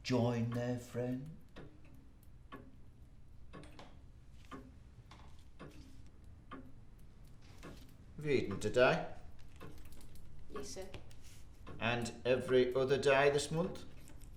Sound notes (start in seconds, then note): 2.9 grandfather clock ticks